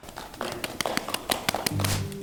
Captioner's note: applause